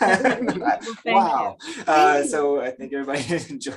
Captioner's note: laughs